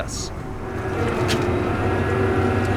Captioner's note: hydraulic pumps